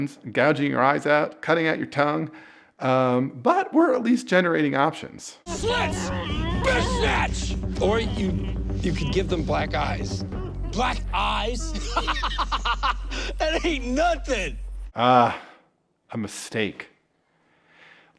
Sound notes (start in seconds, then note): 12.1 laughs